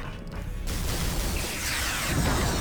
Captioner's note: explosion